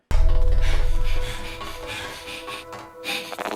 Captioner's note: Maria breathing heavily